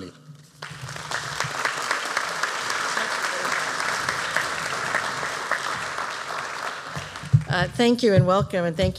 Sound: applause

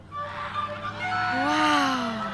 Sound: distant cheering

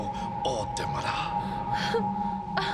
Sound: non-english speech; moan

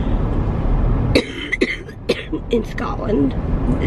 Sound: coughing

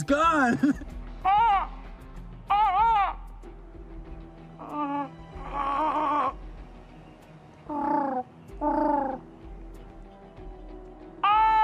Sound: bird calls

